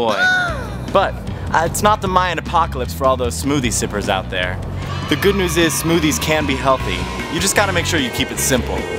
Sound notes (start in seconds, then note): 0.2 background screaming; 4.9 cheering noise